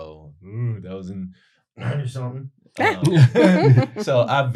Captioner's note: coughs unintelligibly